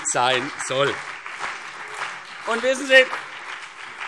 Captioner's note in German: Beifall CDU